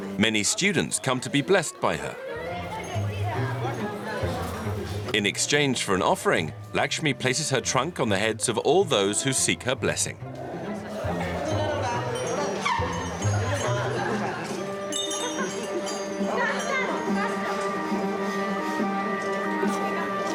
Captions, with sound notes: Many students come to be blessed by her. In exchange for an offering, Lakshmi places her trunk on the heads of all those who seek her blessing. (trunk squeaks)